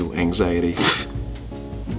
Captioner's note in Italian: sbuffa, imbarazzato; pfft